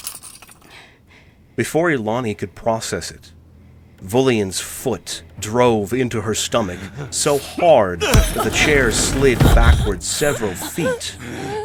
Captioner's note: heavy blow lands